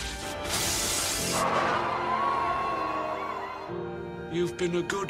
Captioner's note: cheers